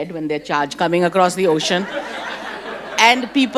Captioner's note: audience laughs